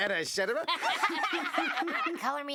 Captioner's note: laughter